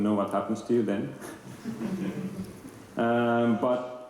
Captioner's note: laughter